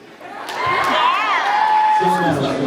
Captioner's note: cheers, applauds